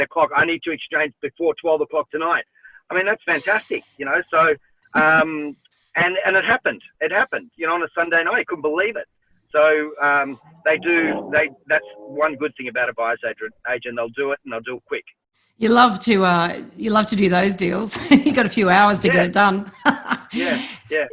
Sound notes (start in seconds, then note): 4.9 woman laughs; 17.6 laughs